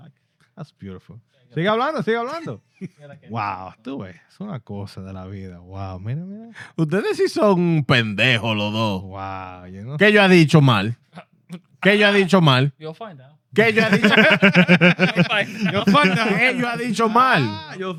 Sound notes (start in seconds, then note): 2.1 speaking In Foreign Language; 4.4 laughing; 4.4 speaking In Foreign Language